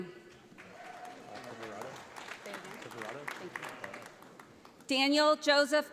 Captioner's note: audience applauds